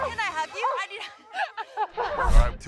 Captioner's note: laughs